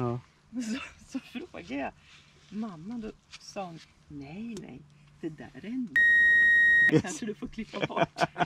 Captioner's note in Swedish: piiiip